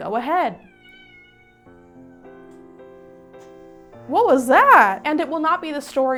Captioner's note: meow